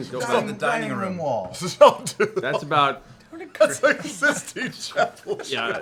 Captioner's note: laughing